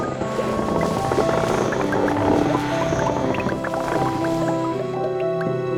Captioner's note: piano music; creaking wood